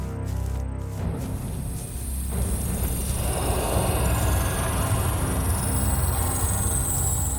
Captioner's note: tense music continues; magic ringing